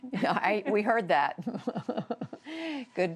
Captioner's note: laughter